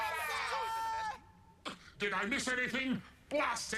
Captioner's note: cheering and excited chatter